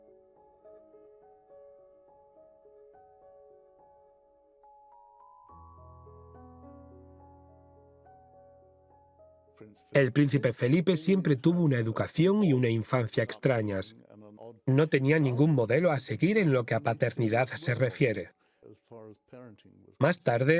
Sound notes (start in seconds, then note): 9.4 voiceover